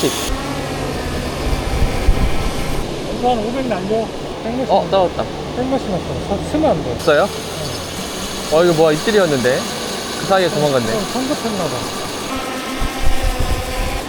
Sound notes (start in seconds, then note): 6.2 drone; 12.3 drone takeoff again